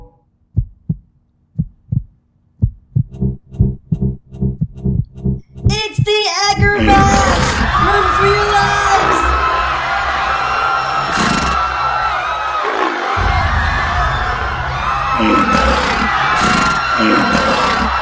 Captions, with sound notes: It's the Agurbash! Run for your lives! [ Beast-like roaring ]